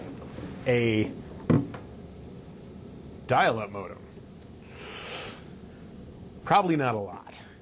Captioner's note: inhaling sharply